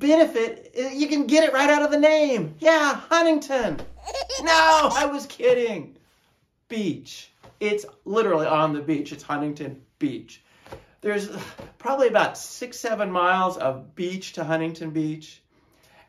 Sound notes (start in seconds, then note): 3.7 baby laughing